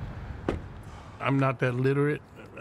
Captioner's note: truck door closes